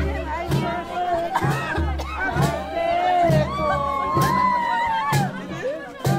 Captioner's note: cheers and revelry